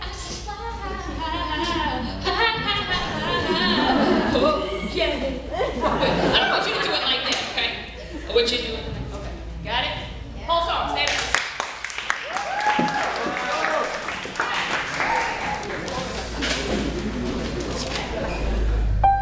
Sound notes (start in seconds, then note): 11.3 cheering and applauding